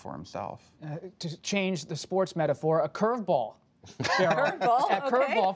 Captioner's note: laughter; laughs